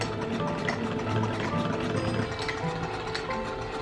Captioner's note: whirring